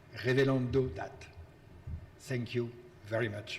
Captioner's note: speaking in foreign language